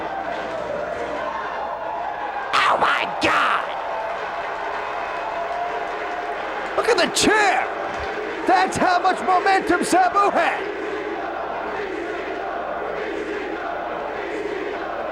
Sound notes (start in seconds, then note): 4.1 spectators cheering and applauding; 10.7 spectators chanting "ECW!"